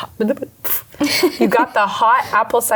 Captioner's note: laughing